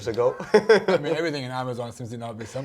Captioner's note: both laughing